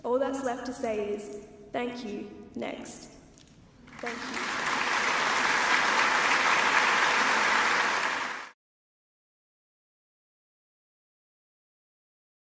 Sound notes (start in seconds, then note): 3.8 crowd applause